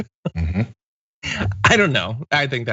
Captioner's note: laugh